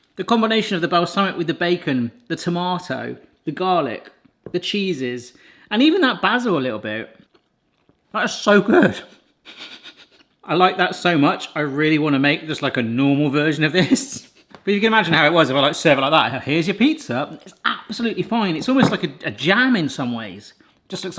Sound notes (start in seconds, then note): 9.4 chuckles; 14.3 laughs